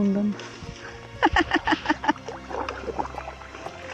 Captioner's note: laughing